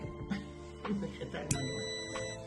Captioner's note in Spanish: sonido: piiiiiii